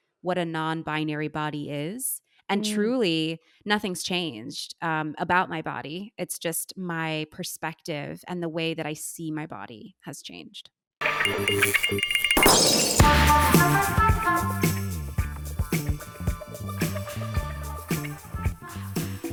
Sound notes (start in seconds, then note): 11.2 electricity buzzing; 13.1 upbeat music